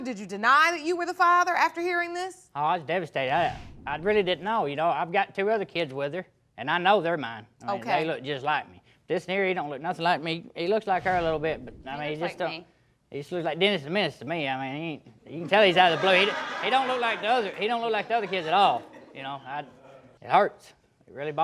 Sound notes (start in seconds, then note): 15.4 audience laughing